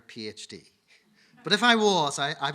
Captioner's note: audience laughing